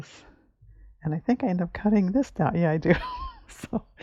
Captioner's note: laughs